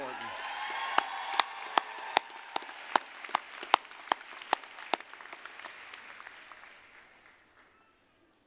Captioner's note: applause, cheering